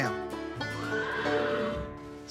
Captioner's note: horses neighing sound